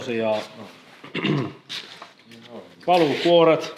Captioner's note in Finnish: rykäisee